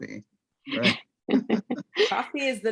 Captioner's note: all chuckle